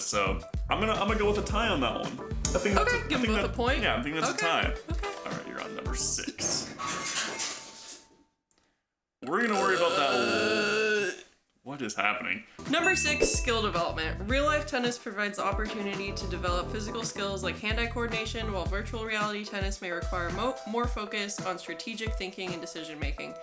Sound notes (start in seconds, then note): 6.7 crash in the background; 9.2 burrrppp